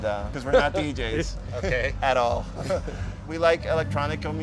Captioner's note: laughs